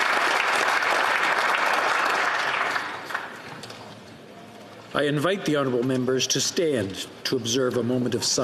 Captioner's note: applause